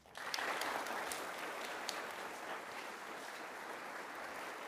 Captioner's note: audience applauds